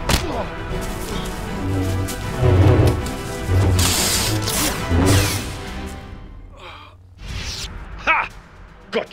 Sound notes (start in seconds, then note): 1.2 tense music; 3.8 lightsabers clash; 5.2 lightsaber slashes